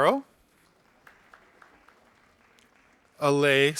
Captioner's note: audience applauding